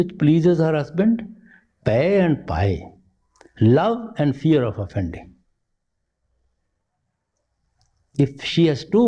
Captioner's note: again both words spoken in Punjabi